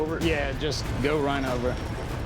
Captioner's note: none